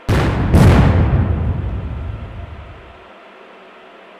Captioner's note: cannons fire